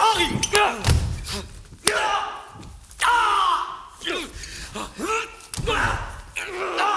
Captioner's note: grunts. Fighting sounds